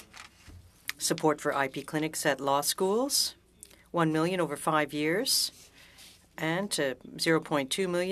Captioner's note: speaking French